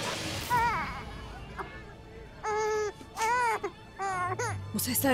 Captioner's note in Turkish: Osman ağlama sesi